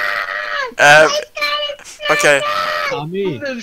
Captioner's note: incomprehensible Screaming